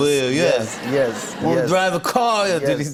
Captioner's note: laughter